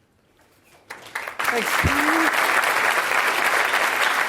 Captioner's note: applause